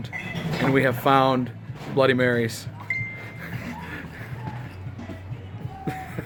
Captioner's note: laughing